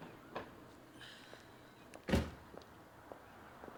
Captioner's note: edie sighs; car door closes